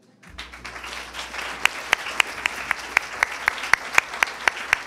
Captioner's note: attendees applauding